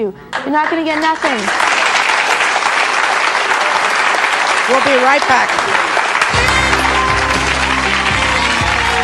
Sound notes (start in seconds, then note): 0.8 audience applauding; 6.3 upbeat music